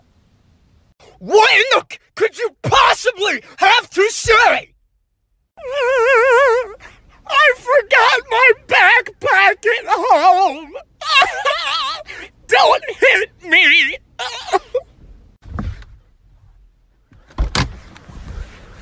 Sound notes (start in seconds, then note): 5.5 whine; 11.2 crying; 14.6 cough; 17.2 doorslam